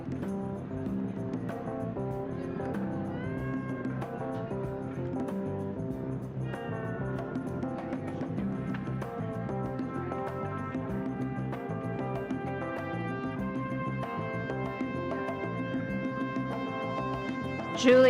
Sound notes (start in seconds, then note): 0.0 ceremonious music; 2.5 audience cheering; 2.5 gentle music